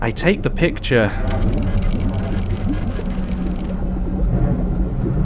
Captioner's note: photo station clicks and whirrs